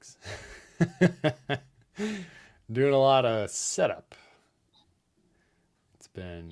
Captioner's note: laughs